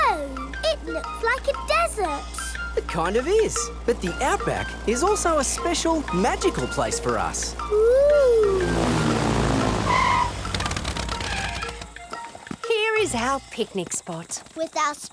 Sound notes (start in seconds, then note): 10.2 tires screeching